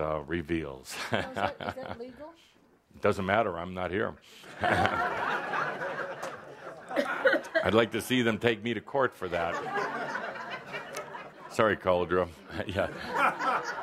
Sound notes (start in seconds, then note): 4.5 laughter; 12.5 more laughter